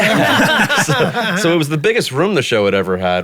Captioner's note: everyone laughing